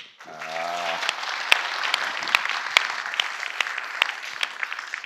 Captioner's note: audience applauding